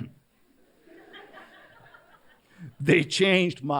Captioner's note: laughter